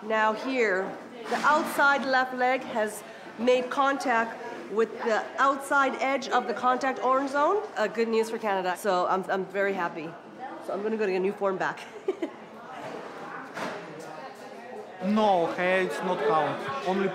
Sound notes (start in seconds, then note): 11.9 laughs